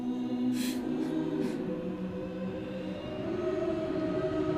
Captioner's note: soft weeping